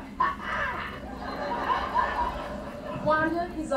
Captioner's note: laughter